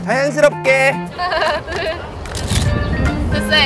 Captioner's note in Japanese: 自然な感じのカチカチ